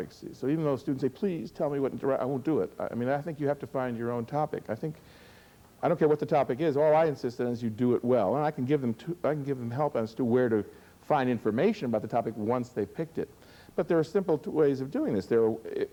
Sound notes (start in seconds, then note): none